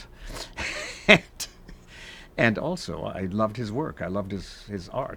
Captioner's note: chuckles